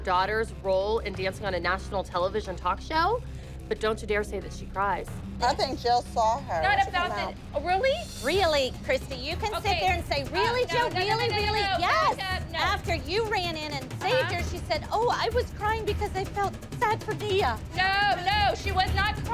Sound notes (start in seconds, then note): none